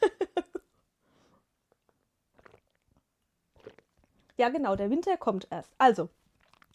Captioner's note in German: gelächter